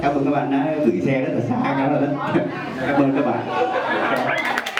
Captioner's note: speaking foreign language